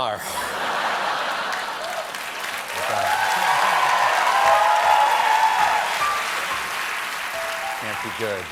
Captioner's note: cheers and applause